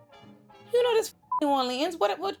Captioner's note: beep